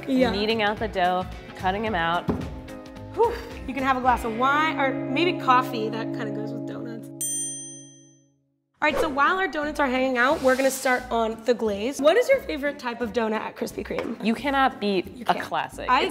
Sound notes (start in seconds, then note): 2.9 exhausted sigh; 6.9 bell ding; 10.2 air whooshing